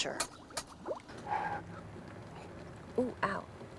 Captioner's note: blows